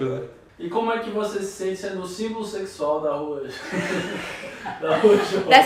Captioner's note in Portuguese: risos